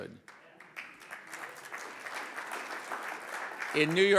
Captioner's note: audience applauds